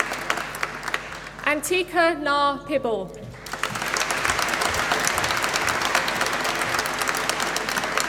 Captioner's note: applause